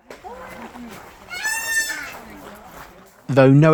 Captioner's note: peacock squarking